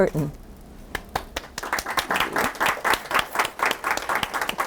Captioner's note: applause